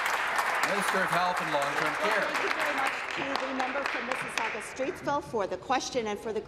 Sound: applause

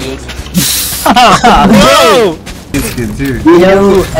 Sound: laughter

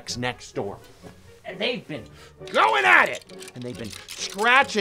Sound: scraping

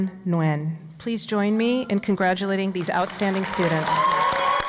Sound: applause

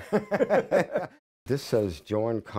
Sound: laughter

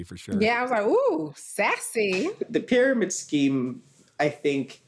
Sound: none

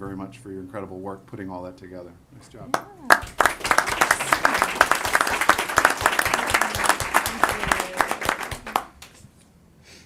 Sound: applause

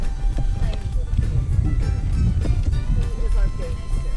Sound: crowd chats

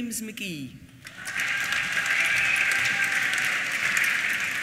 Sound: applause

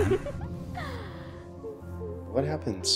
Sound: Jenna giggling

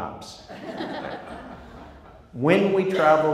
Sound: crowd laughs

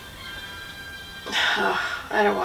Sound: groans

